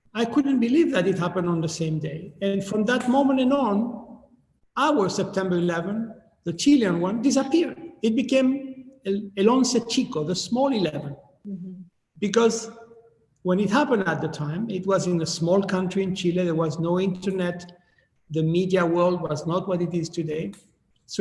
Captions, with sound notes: I couldn't believe that it happened on the same day. And from that moment, and on, our September 11, the Chilean one disappeared. It became (speaking in foreign language) the small 11, because when it happened at the time, it was in a small country in Chile. There was no internet. The media world was not what it is today.